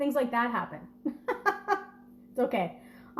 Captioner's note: laughing